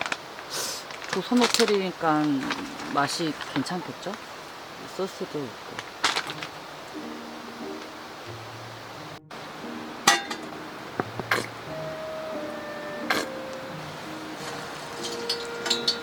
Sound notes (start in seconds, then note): 6.6 laughs